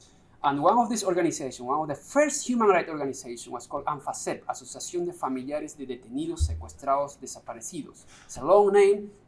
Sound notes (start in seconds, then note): 4.5 spanish